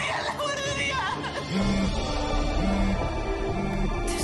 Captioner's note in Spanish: Teléfono vibrando